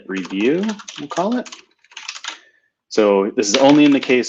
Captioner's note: typing